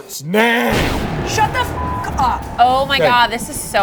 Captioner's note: beep